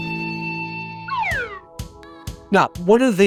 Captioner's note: slide whistle